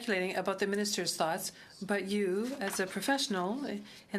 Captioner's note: speaking French